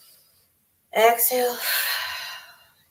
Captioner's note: exhales